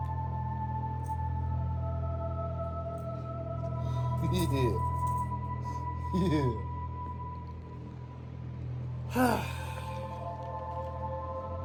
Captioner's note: Ava makes a frustrated groan; laughs and giggles